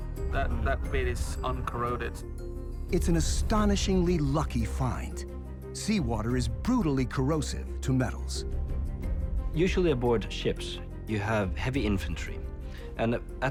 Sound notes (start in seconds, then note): none